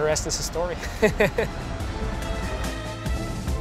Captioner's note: laughs; lively music